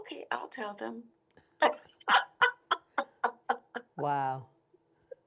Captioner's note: laughing